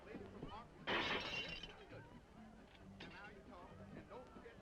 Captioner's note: glass breaking